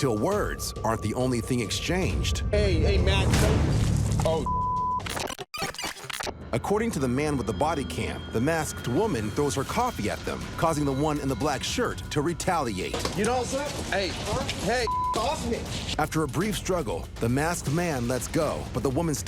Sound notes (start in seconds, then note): 4.3 beep